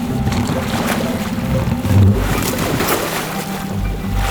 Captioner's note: relaxing music continues; water splashing